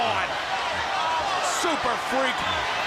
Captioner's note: crowd chatter